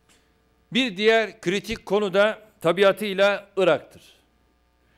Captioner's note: non-english speech